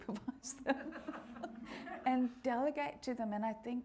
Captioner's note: all laughing